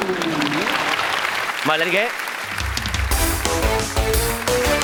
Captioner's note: clapping